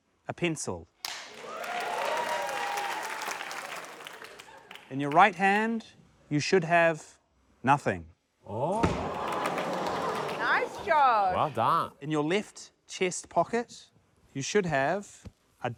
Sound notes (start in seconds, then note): 1.0 cheers, applause; 9.3 rubber ducky thuds